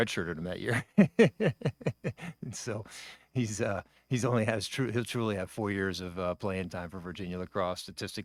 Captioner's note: laughs